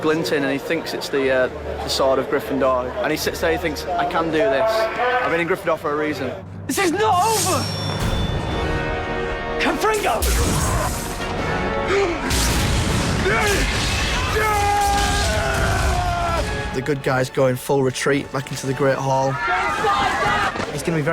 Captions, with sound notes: ...and he thinks it's the sword of Gryffindor. He sits there, he thinks, I can do this. I've been in Gryffindor for a reason. This is not over! Confringo! [GASPS] [VOLDEMORT YELLING] The good guys go in full retreat back into the Great Hall.